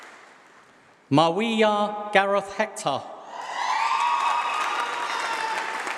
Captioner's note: applause